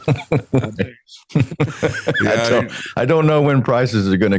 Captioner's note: laughing